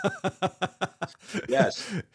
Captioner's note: both laughing